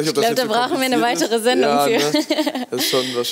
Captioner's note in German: lacht